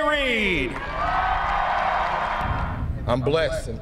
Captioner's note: cheering